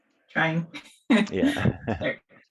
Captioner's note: laughing